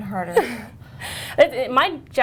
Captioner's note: laughter